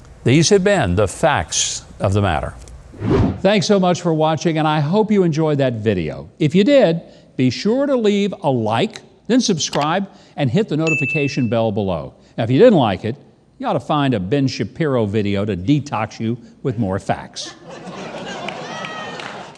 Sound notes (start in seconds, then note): 2.9 wind whooshing; 9.8 keyboard clicking; 10.8 bell dinging; 17.5 audience laughing